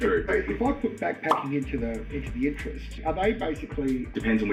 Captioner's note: pop